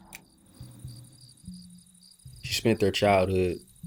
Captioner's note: sound of crickets chirping